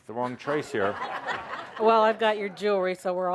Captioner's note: laughter